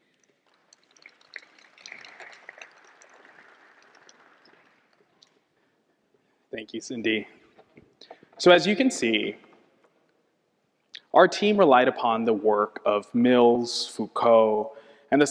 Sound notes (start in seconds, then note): 0.6 audience applauding